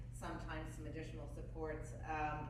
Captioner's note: none